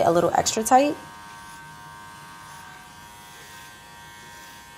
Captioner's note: razor buzzes